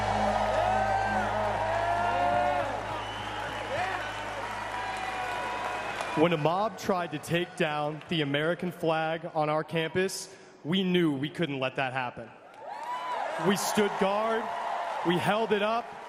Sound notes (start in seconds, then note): 4.3 applause; 4.7 cheering